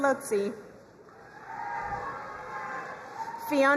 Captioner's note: crowd cheering and applauding